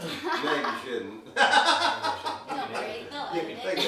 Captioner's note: laughing